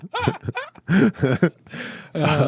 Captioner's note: laughing